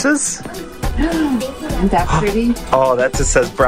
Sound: gasps

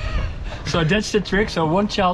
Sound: laughs

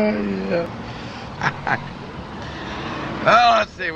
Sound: laughs

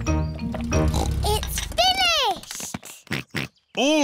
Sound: slurping; george oinks; oinks

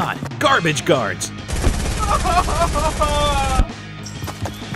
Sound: gun shots firing

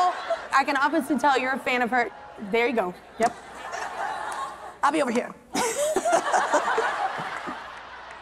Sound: laughter

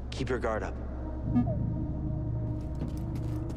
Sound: boo-woop

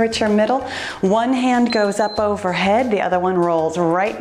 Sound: timer beeps

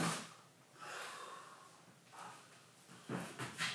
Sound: sighs

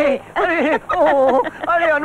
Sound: laughs

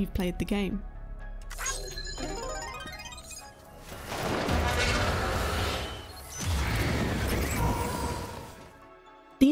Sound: Various Death Stranding sound effects

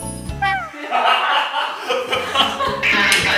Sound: hahaha

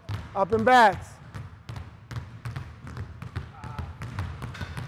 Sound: balls continue thudding

